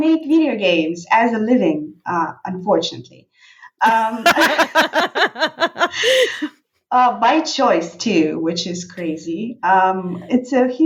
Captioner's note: laughing